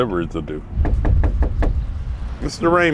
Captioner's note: knocking